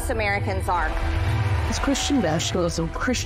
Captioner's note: crowd cheers